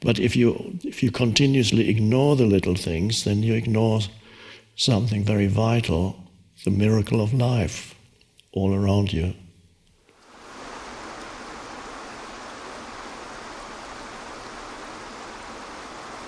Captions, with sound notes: But if you continuously ignore the little things, then you ignore something very vital, the miracle of life all around you. (water gushing)